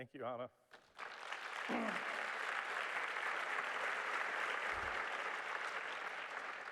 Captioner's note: applause